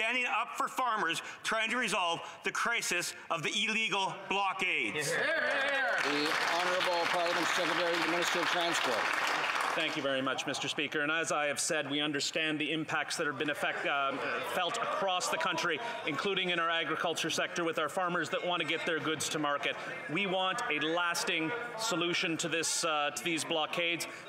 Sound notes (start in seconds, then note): 8.4 applause